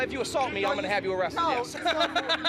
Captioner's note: laughs